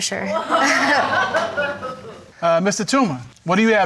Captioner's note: audience exclaims